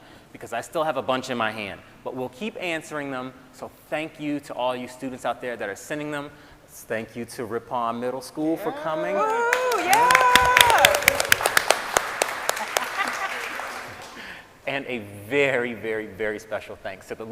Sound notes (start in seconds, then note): 9.1 audience applauding and cheering